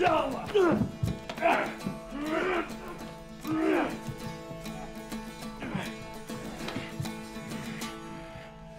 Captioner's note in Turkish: Dövüş sesleri; Müzik - Hareketli